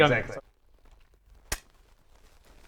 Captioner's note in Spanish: pop